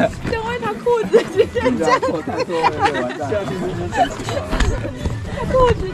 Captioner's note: laughs